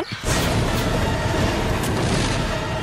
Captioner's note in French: Crash